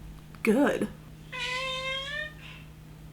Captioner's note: cat meowing